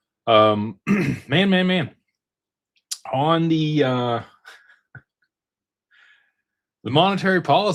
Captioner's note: clears throat